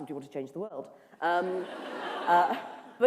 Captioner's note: laughter